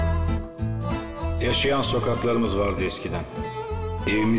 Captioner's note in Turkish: dış ses